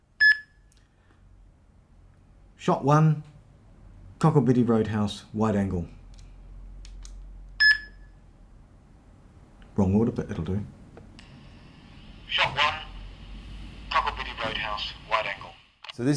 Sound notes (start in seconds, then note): 0.2 beep; 7.6 beep